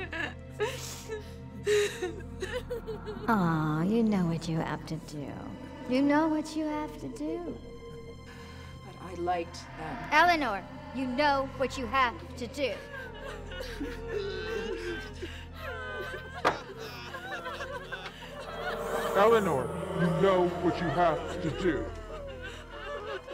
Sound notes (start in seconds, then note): 0.2 ominous music; 13.2 kids crying; 13.2 ominous music